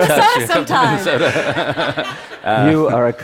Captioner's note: Laughter; 笑聲